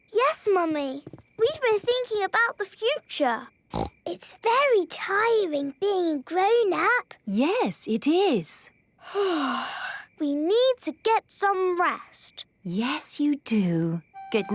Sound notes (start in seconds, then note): 9.3 yawning